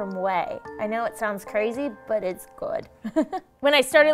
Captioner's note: laughing